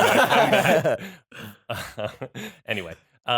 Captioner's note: laughter